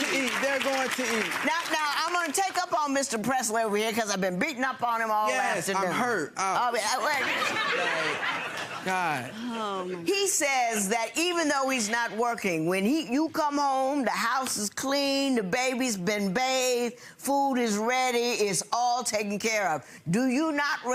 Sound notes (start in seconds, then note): 0.0 audience applause drowning out words; 7.0 audience laughing